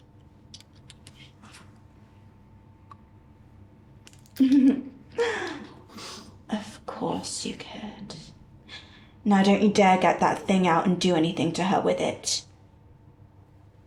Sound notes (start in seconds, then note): 0.7 pipette rattles; 4.4 giggles